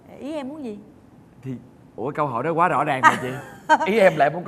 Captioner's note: chuckles